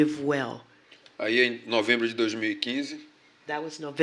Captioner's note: speaking portuguese